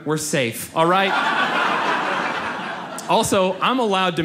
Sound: audience laughs

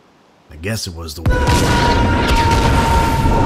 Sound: explosion

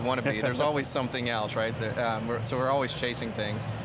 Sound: laughing

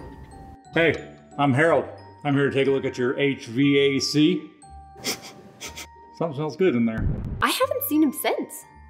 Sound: sniffs

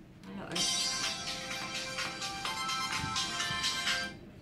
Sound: phone rings again

